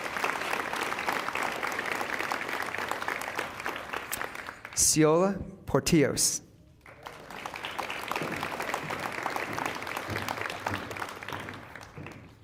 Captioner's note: applause